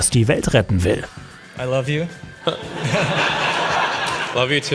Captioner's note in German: Gelächter